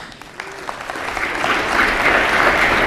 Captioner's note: applause